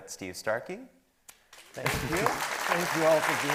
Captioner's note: attendees clapping